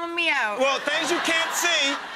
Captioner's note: crowd laughs